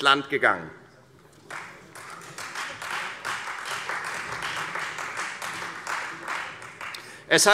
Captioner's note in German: Beifall Freie Demokraten